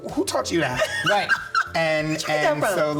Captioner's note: laughs